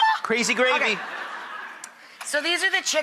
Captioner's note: laughter